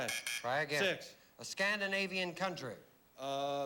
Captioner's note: buzz buzz